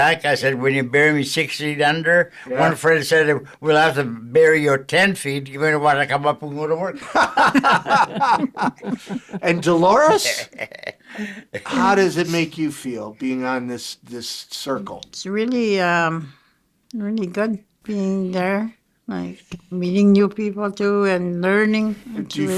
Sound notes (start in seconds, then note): 7.0 all chuckling; 10.5 chuckling